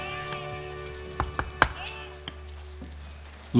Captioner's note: knuckles rapping